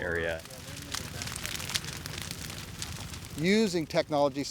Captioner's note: fire crackling